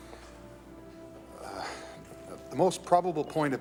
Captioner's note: moan